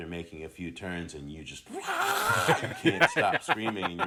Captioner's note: screams